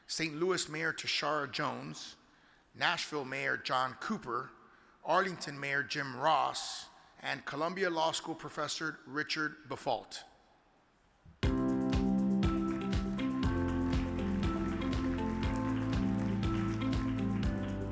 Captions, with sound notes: St. Louis mayor, Tishaura Jones, Nashville mayor, John Cooper, Arlington mayor, Jim Ross, and Columbia Law School Professor, Richard Briffault. (upbeat music) (audience applauds)